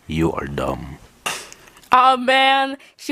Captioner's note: pan falling down